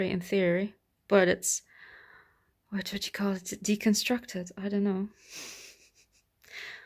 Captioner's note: laughs